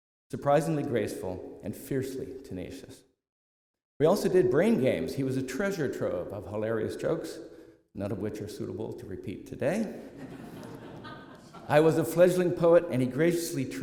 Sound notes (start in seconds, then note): 10.0 laughter